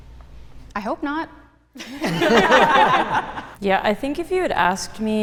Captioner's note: participants laughing